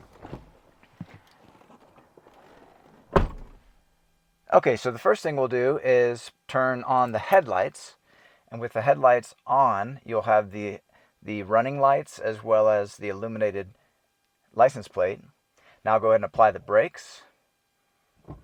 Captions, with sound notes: (door slams) Okay, so the first thing we'll do is turn on the headlights, and with the headlights on, you'll have the running lights as well as the illuminated license plate. Now, I'll go ahead and apply the brakes.